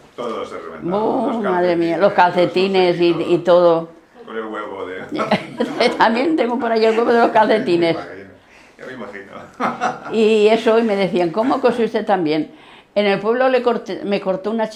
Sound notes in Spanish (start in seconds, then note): 4.8 Risses